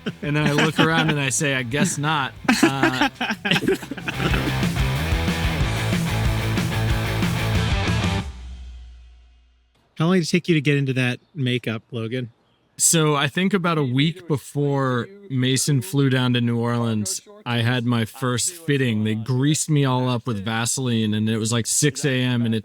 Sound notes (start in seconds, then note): 2.6 group laughing; 4.3 upbeat rock music